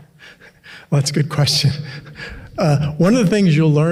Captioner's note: laughing